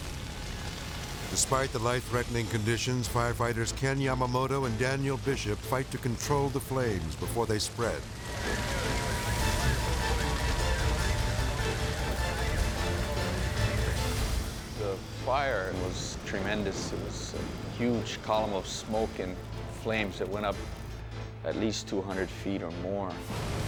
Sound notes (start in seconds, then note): 8.4 dramatic music; 8.4 hose whooshes